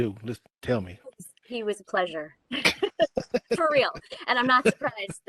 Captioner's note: laughing